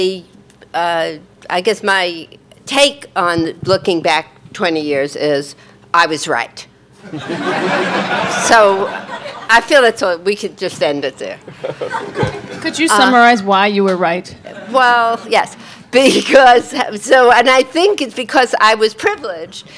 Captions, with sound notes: I guess my take on looking back 20 years is, I was right. (audience laughing) So I feel it, so we could just end it there. - Could you summarize why you were right? - Well yes, and I think it's because I was privileged